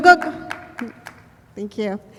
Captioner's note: applause